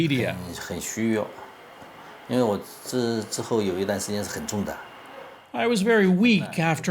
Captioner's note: speaking Mandarin